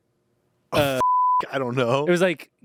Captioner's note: beep